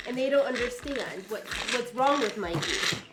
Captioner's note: none